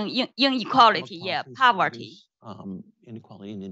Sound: speaks faintly

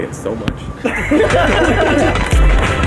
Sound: laughter

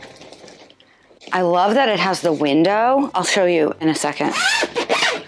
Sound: zipper noise

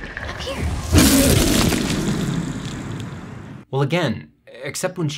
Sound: dinosaur sneezes

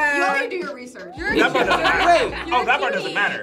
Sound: group laughs

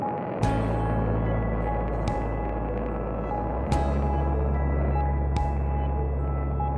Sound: jet engines

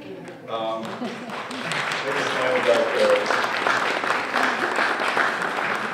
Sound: applause

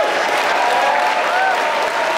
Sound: applause

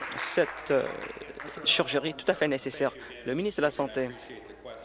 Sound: applause

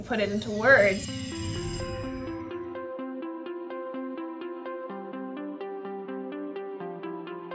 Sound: bell rings; bright music

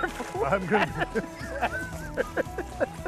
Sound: laughter

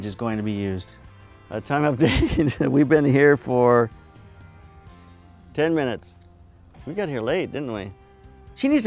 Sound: laughs

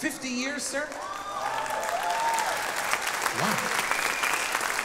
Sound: audience cheering

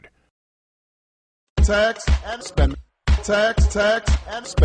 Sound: voice of Barack Obama to upbeat rhythm

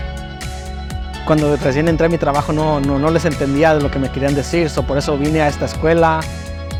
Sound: speaking in foreign language

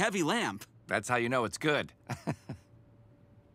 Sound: chuckles

